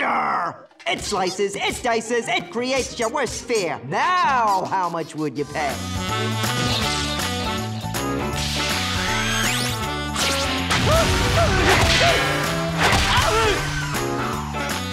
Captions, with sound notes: It slices, it dices, it creates your worst fear. Now, how much would you pay? [grunting]